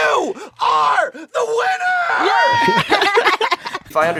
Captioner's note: cheering